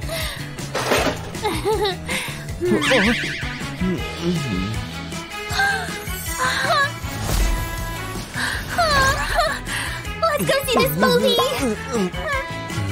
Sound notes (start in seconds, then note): 2.6 an embarrassed laugh